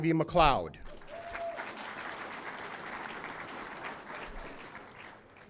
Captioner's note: audience applauding